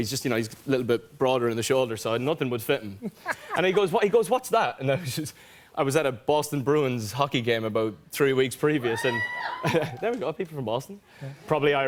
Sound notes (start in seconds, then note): 8.8 cheers; 9.6 laughter